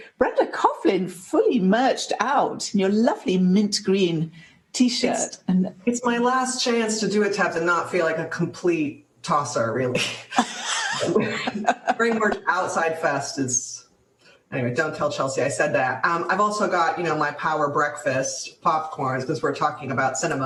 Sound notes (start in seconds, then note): 10.0 chuckle; 10.0 laughter